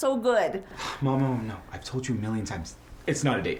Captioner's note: sighs